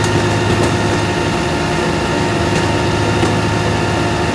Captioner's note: truck humming